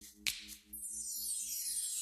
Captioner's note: snap